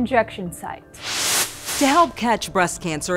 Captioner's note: screen whoohsing